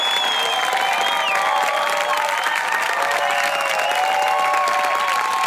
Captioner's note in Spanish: Ovación desenfrenada